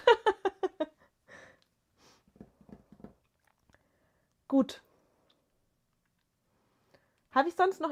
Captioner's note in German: gelächter